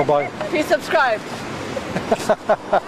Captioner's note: laughter